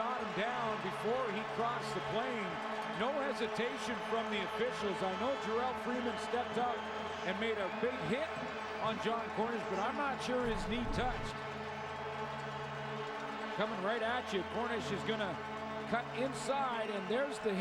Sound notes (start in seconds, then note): 1.6 cheers and applause